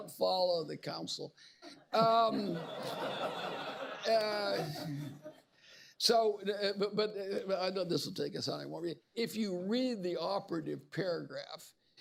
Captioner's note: laughter; laughter